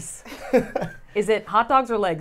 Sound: laughs

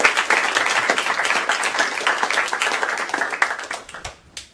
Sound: applause

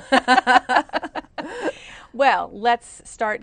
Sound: laughter

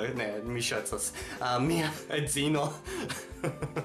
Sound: laughs

